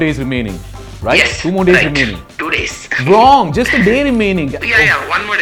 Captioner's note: on phone